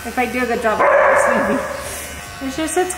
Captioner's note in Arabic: ينبح كلب